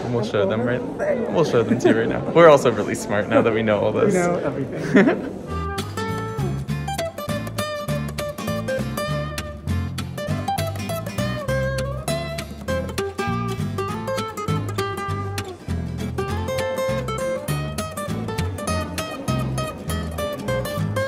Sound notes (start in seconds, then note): 4.1 laughs; 5.8 bright music